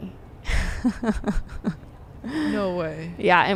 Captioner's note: laughing